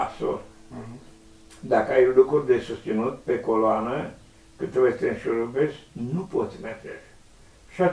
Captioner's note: breath